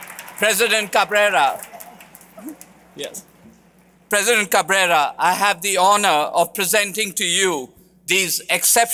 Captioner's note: cheers and applause